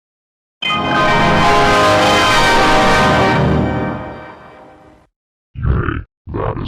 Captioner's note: Hell Windows XP Startup Sound